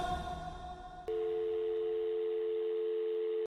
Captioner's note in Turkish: uzun telefon sesi